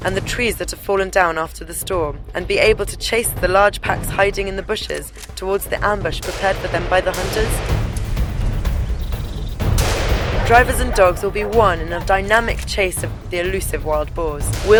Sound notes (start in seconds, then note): 9.6 gunshot